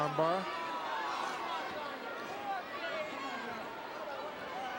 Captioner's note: crowd murmuring